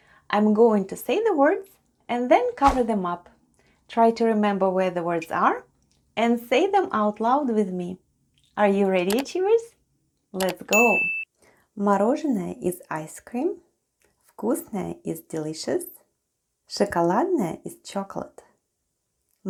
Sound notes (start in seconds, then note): 10.4 click and ding sounds